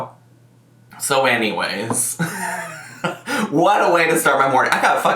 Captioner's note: laughs